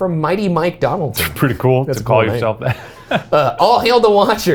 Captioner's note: laughs